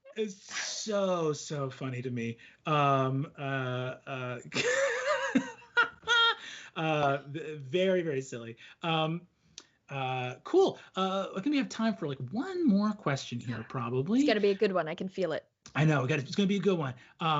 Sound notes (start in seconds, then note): 4.0 laughs out loud